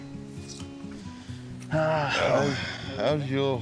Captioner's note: both exhale